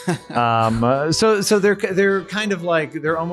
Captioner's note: laughing